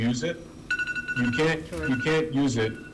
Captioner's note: alarm rings